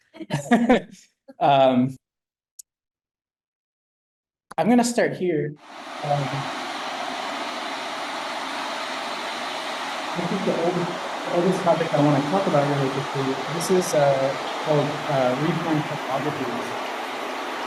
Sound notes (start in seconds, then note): 0.1 laughs; 5.7 television interference sounds